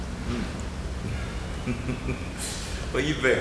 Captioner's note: chuckling